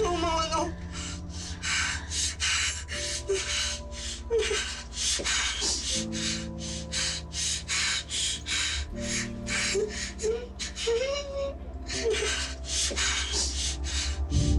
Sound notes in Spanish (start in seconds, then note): 1.8 Respiración acelerada; 4.2 Sollozos